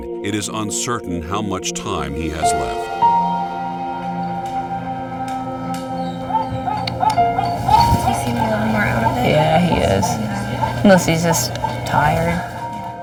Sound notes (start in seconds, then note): 3.0 percussive music; 6.5 dog barking